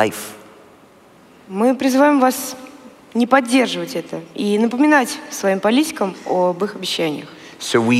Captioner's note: foreign Language